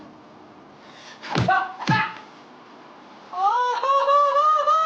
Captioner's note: man grunting